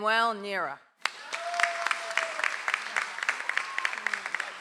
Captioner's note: audience applauds